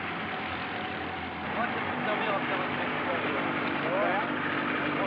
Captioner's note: men speaking french